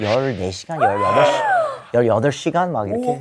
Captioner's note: gasp